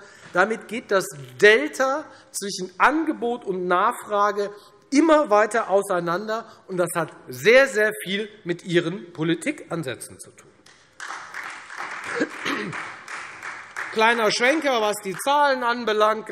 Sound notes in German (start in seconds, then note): 10.7 Beifall Freie Demokraten